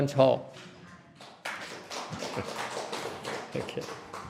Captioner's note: clapping